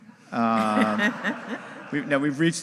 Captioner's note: audience laughing